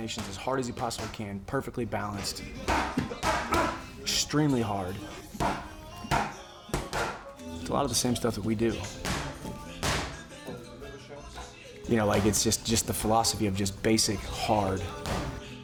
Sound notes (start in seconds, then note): 5.4 grunting